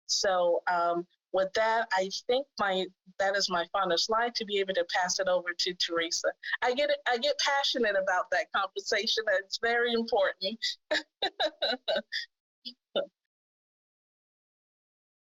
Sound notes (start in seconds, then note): 10.7 laughing